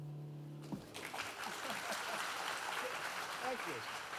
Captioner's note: audience applauding